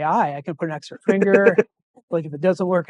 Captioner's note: laughing